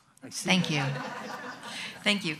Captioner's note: audience laughs